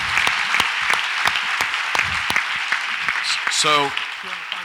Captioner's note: audience applauds